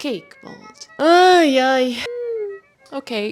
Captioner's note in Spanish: suspira dramáticamente